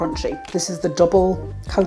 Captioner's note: tap tap tap